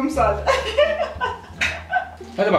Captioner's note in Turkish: gülüyorlar